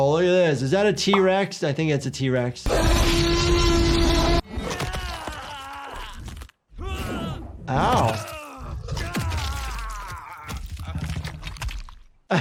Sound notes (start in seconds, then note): 2.7 dinosaur roars; 4.5 fighter groans; 9.2 fighter groans